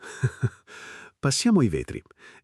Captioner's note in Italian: Haha